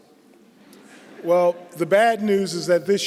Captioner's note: laughter